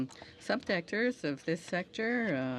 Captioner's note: speaking French